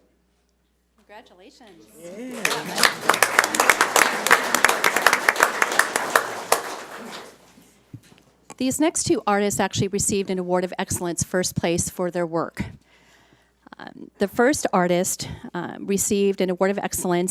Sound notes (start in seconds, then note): 1.9 audience applauds